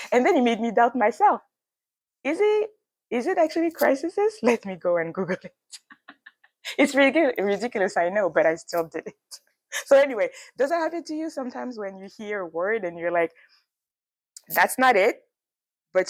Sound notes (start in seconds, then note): 5.6 laughs